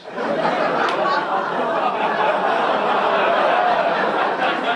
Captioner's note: audience laugh